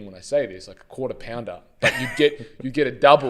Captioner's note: laughs